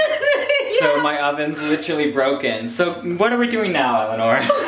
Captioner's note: laughs; laughs